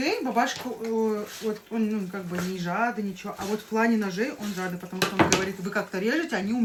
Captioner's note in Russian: фыркает